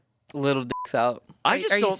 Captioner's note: beep